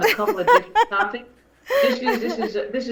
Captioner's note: laughs